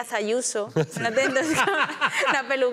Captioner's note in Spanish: todos ríen